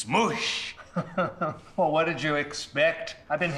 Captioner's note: chuckling